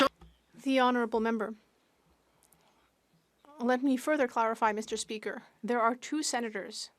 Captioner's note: speaking French